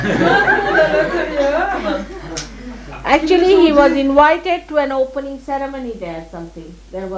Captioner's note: laughter